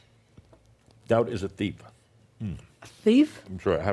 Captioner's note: he mumbles a bit, taking another bite